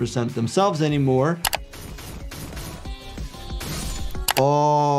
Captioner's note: rods thudding; mouse clicking